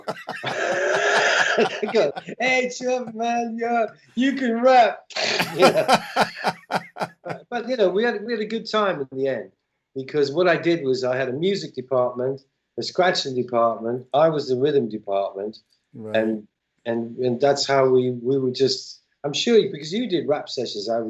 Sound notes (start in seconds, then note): 0.0 laughter; 5.4 laughter